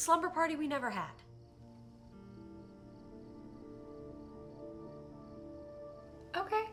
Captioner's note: crickets chirping; slow soft music